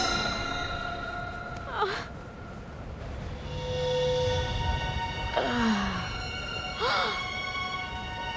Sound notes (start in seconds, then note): 5.3 groaning; 6.8 gasping